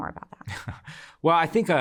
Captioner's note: chuckles